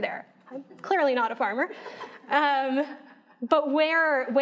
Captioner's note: audience laughing